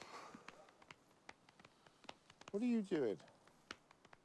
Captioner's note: sighs